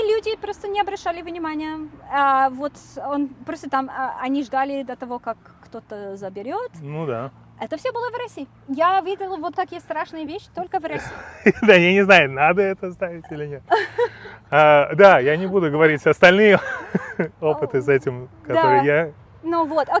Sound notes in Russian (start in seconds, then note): 10.9 смеётся